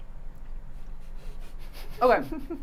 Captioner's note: giggling